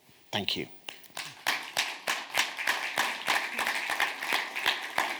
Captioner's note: audience claps